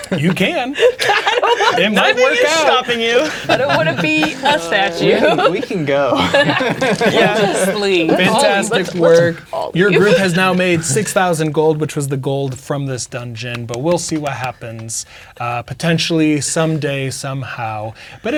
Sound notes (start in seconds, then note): 1.1 laughing; 6.3 laughing; 13.5 clapping